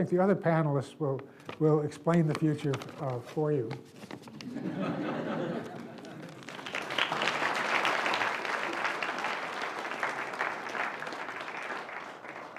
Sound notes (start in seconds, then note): 4.4 audience laughs; 5.3 audience applauds